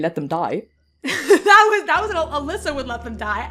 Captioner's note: laughing